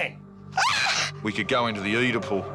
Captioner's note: neck snaps; mom screams